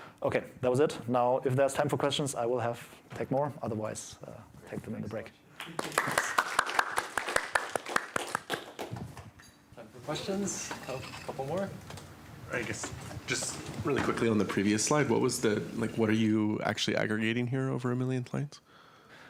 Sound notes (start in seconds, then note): 5.6 applause